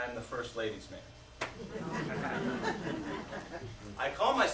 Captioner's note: laughter